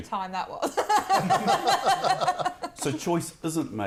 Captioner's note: laughter